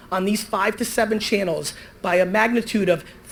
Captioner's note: none